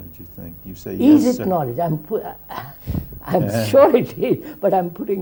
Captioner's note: laughs